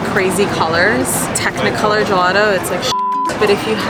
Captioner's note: beep